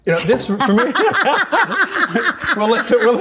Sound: both laugh

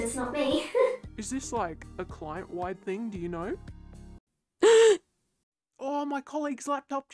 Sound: gasp

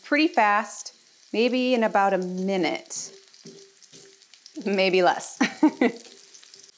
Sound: laughs

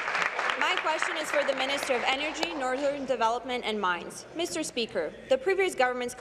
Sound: applause

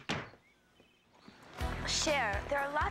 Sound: door closing

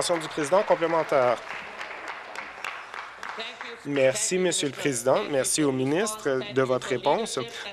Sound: voice trailing

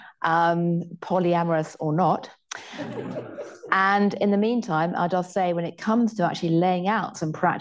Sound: laughter

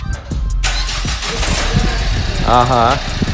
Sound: sound of car starting

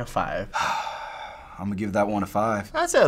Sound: sighs

